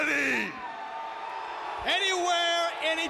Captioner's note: audience cheering